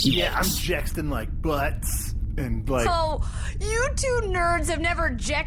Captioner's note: mockingly